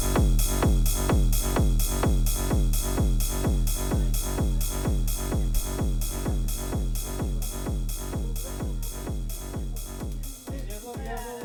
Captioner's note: people laughing